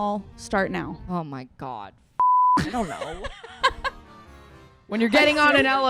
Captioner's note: beep